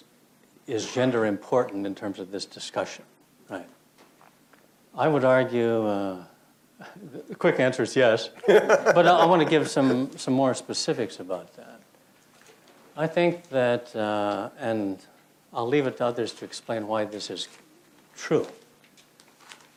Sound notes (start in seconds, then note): 8.4 laughs